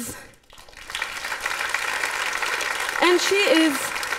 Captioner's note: applause